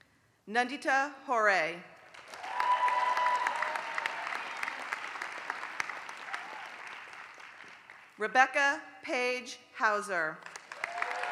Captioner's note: applause; applause